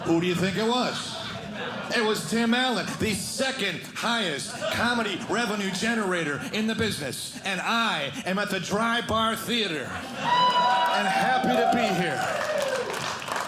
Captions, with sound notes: Who do you think it was? It was Tim Allen, the second highest comedy revenue generator in the business, and I am at the Dry Bar Theater. (audience cheering) I'm happy to be here. (audience cheering)